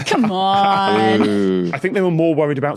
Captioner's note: wheezes